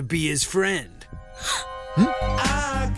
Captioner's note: gasp